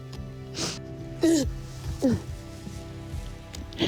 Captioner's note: crying